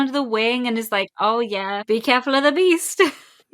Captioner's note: laughs